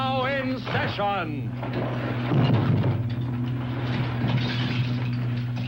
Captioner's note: rocks crumbling aggressively